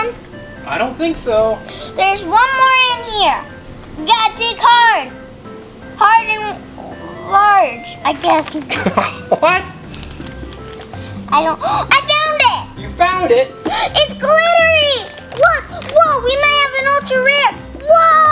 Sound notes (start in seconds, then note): 8.6 chuckles; 13.6 gasps